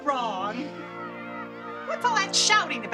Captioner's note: yelling